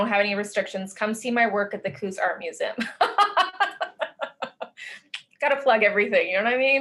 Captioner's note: laughs